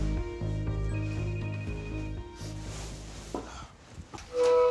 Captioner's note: tense music; cellphone chimes